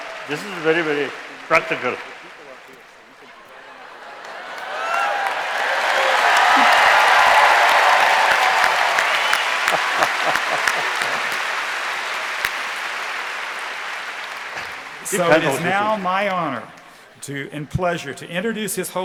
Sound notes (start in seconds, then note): 3.4 cheering